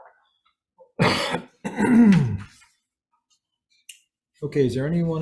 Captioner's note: coughing